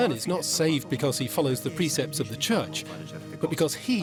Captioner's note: in Italian